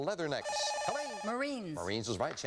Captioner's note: buzzer